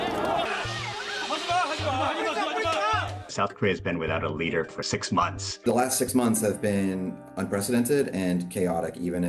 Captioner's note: yelling